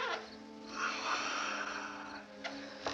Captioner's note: sighs